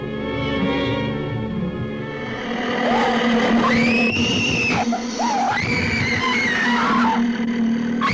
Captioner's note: screaming; growling